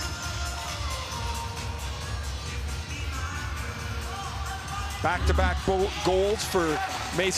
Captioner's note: cheering and Applause